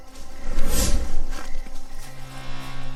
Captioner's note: scene swooshing; mysterious music